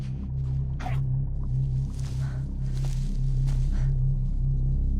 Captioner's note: animal grunting